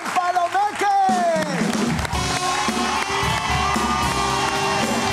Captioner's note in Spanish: Aplauden